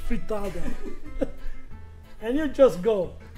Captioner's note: all laughing